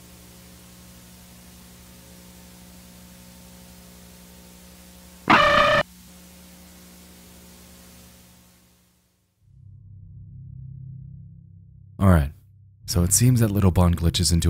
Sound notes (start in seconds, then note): 5.2 piercing distorted tones; 9.6 suspenseful music